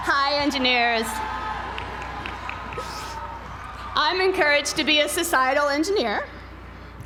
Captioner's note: applause